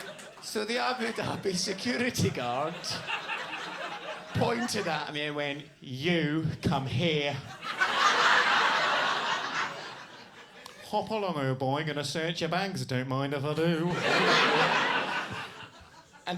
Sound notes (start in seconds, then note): 7.3 audience laughs; 13.7 audience laughs